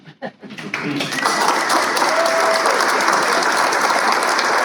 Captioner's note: applause